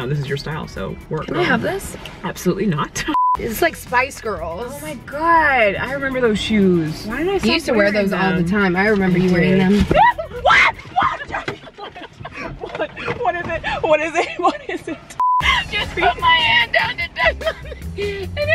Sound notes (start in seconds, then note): 3.1 high pitched beeping; 9.9 screams; 15.2 high pitched beeping